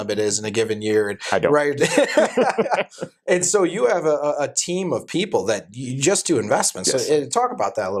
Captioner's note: laughter